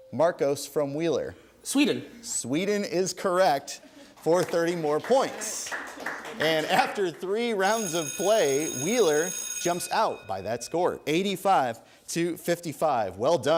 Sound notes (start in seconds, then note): 4.1 applause; 8.0 bell ringing